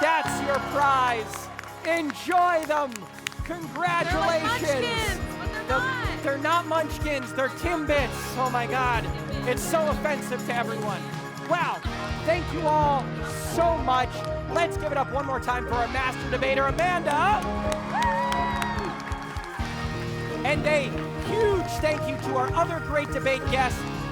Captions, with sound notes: That’s your prize, enjoy them, congratulations. - They're like Munchkins, but they're not. - They're not Munchkins, they're TimBits. Oh my God, it's so offensive to everyone. Wow, thank you all so much. Let's give it up one more time for our master debater, Amanda. (audience cheering) (audience applauding) And a huge thank you to our other Great Debate guests.